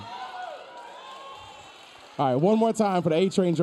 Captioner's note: audience cheering